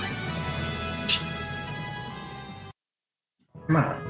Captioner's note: laughs softly